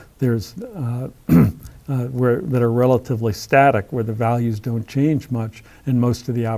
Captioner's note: cough